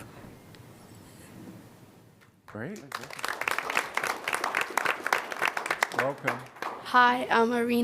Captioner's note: applause